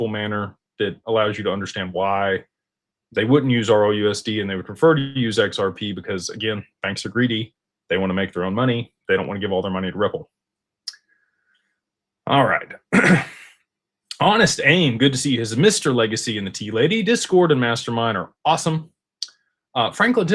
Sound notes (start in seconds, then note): 12.9 clears throat